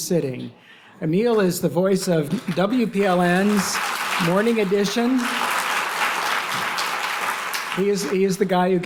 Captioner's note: applause